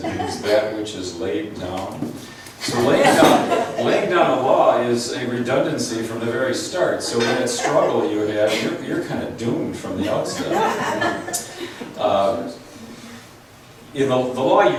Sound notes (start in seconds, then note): 2.6 laughs; 13.3 laughs